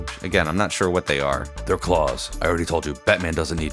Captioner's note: Deep Batman Voice